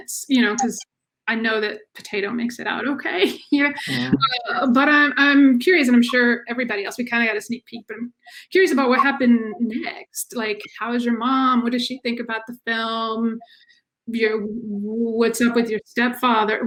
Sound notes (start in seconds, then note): 3.7 chuckles